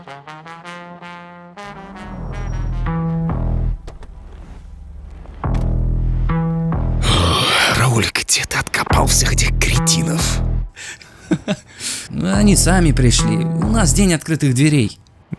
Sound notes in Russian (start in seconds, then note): 7.5 тяжело вздыхает; 10.8 нервный смех